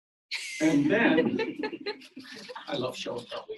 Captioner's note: audience laughs